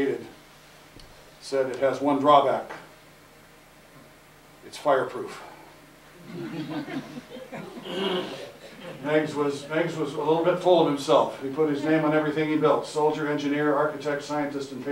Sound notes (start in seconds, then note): 6.2 laughter